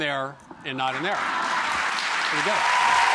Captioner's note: applause